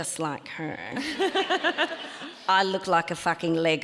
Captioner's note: audience laughs